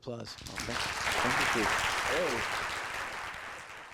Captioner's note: audience applauds